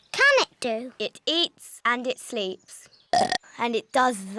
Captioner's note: burps